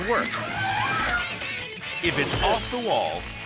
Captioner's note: elephant trumpets